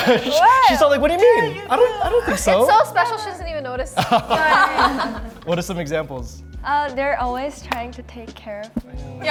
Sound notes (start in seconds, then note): 4.0 everyone laughs